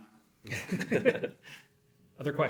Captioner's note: both laughing